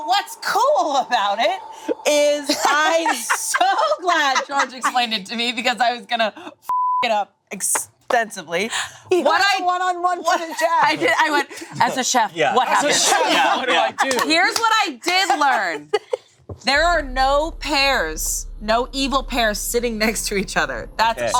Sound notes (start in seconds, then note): 6.7 beep; 12.6 group laughing